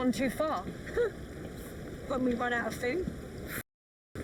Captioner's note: chuckles